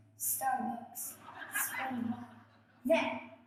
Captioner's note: audience laughs